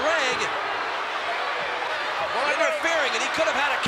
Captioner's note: crowd booing